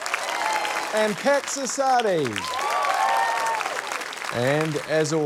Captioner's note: cheering, applause